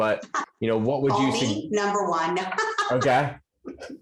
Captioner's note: laughs